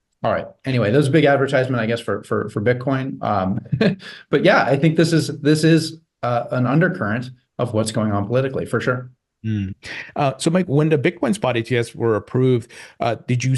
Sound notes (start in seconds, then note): 3.2 chuckles